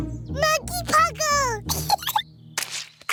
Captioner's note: giggles